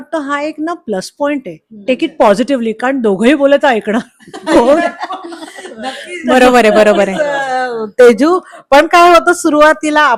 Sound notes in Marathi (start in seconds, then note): 4.0 हास्य